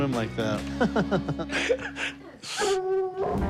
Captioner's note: laughs